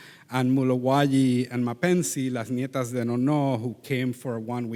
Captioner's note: faintly speaking